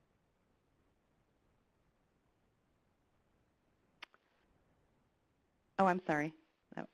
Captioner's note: pause